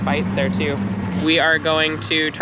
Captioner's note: boat engine running